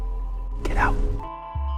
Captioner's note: whispering